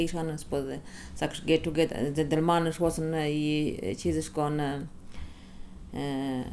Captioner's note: in English